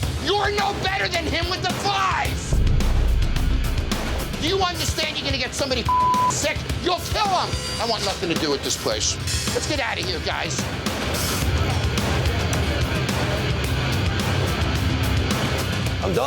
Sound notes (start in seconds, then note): 5.8 beep; 10.0 dramatic suspenseful music